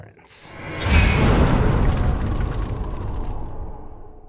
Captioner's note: impact